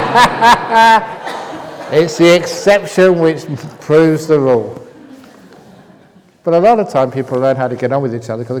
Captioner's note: laughter